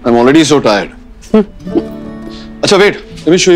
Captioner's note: Ananya chuckles